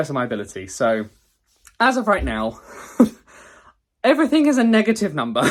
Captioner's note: laughs